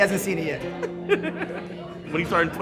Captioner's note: laughs